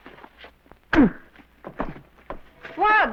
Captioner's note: thud